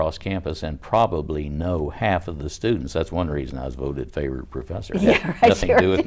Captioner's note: laughing